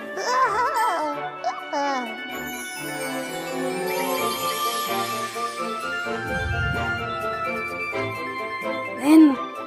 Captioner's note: happily whimpers